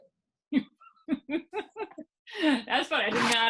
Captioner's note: laughing